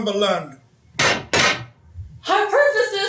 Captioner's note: sticks pound on ground twice